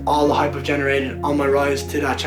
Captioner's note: none